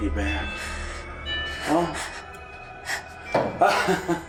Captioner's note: shivering; giddy joy from Otis; ugly orgasmic laughter